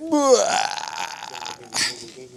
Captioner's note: groans